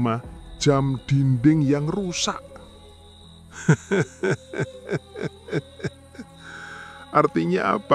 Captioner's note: laughs